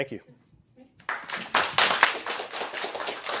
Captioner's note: applause